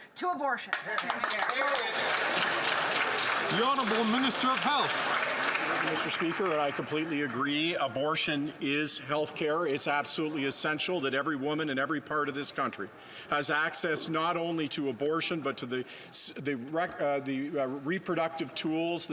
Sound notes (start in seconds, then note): 6.4 some Applause